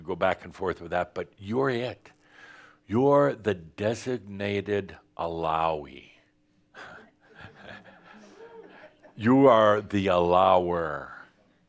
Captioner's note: some chuckles